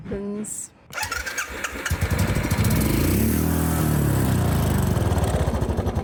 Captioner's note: engine roars